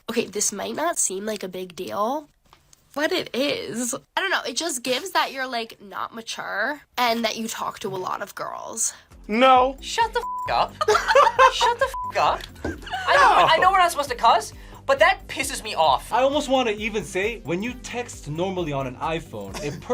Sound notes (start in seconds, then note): 10.7 both laugh